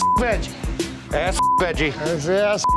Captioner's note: beep